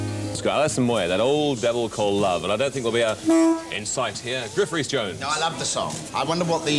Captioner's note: disapproving horn honk